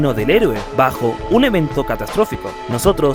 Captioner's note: none